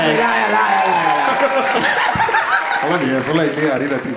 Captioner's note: crowd applauding